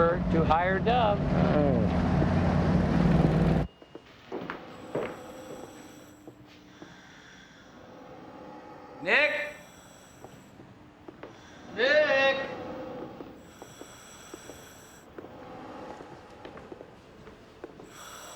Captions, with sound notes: - Cheaper to hire Dov. - Eh. (mechanical wheezing) - Nick? - Nick? (wheezing)